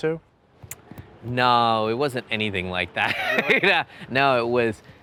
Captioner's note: laughs